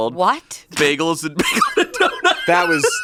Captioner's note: laughs